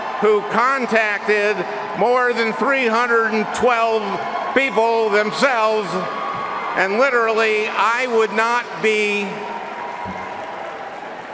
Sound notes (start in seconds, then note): 3.6 cheering